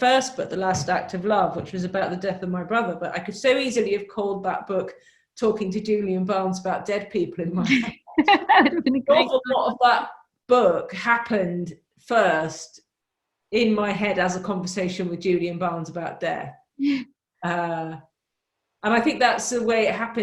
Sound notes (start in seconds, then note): 7.6 laughs